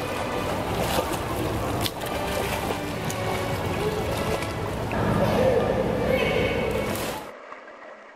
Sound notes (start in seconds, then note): 1.5 splashing